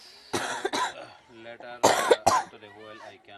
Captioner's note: coughs